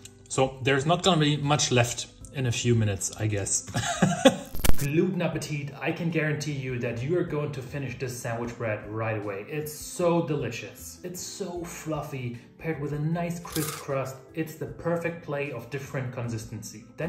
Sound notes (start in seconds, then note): 3.8 laughs